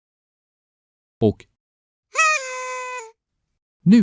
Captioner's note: party Horn